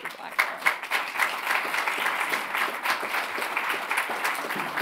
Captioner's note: audience clapping